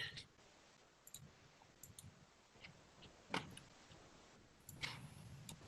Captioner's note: computer mouse clicks